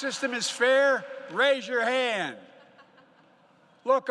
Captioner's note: laughter